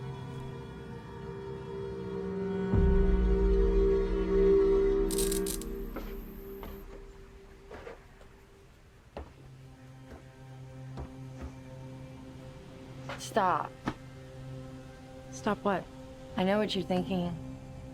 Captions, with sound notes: (light buzzing) (footsteps tapping) Stop. - Stop. What? - I know what you're thinking.